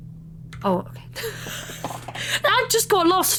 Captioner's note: laughs